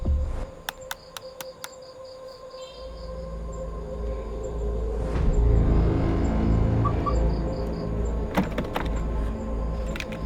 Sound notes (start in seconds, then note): 0.6 clicking; 6.8 car chirps